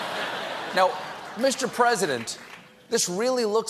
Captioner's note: laughter